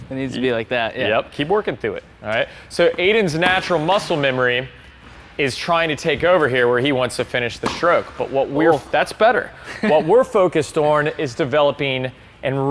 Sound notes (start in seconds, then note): 9.6 chuckles